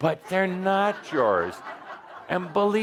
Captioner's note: laughter